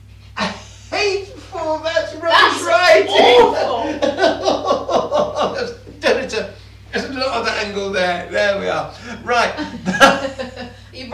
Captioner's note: gibbering about the angle